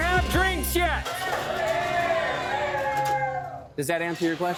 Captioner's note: whooping